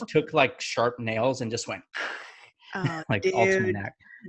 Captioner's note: mimics scratching